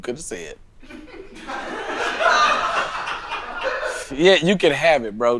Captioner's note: laughing